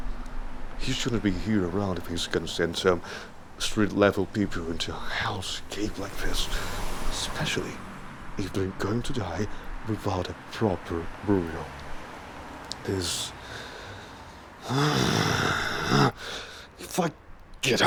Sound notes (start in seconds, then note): 5.6 growls in anger then talks while gritting teeth